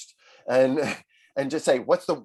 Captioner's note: laughing